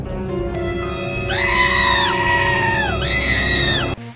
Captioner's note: frightened woman scream